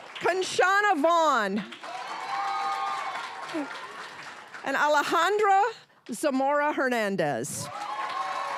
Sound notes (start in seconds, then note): 1.6 cheering, applause; 7.6 applause